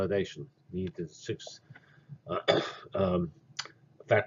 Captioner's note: cough